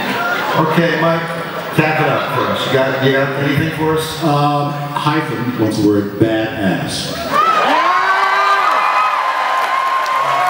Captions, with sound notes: Okay Mike. Wrap it up for us? Do you have anything for us? Hyphen. What's the word? Bad-ass. (Cheers)